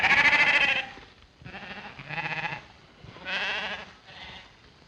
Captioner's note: bleating continues